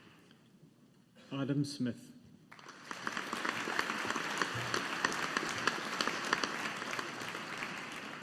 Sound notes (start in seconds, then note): 2.5 audience applauding